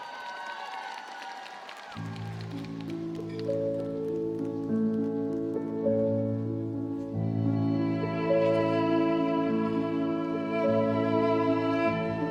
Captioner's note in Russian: ликование